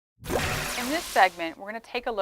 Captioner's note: swooshing Sound